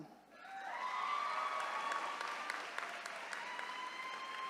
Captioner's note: attendees cheering